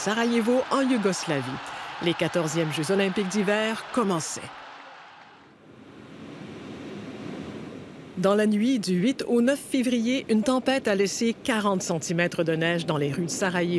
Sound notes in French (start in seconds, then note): 3.6 acclamations